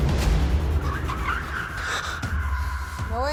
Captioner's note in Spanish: Chirrido de llantas